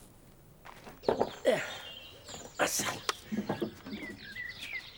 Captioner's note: Pod grunts